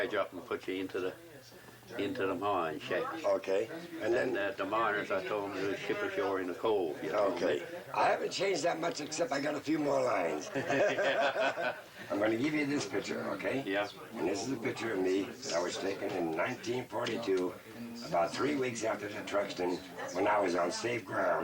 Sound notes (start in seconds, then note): 10.4 laughter